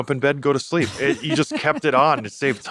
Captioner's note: laughs